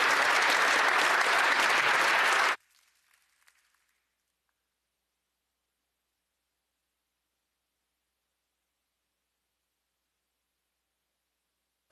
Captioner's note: applause